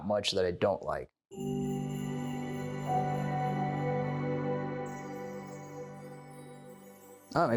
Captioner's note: chime Sound